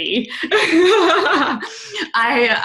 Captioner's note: laughing